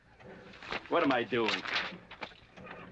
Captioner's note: paper rustling